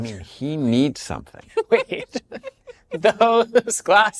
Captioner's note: all laughing